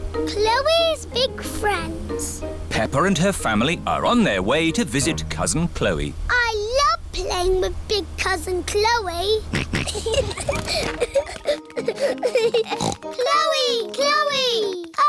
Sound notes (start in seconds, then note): 9.4 kids giggling; 9.5 snorts